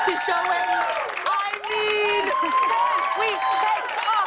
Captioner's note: cheers and applause